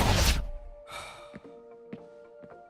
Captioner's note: sigh